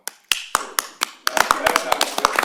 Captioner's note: applause